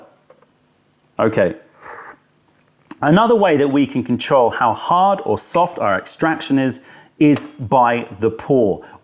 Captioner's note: sips tea